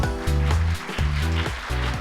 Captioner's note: applause